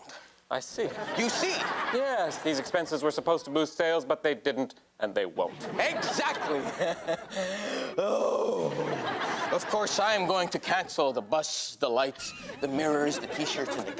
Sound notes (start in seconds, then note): 0.9 audience laughs; 5.6 laughs